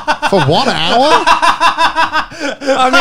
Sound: chuckling

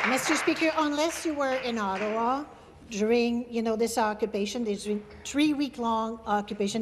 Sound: applause

